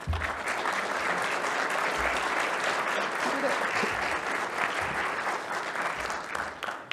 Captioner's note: audience applauds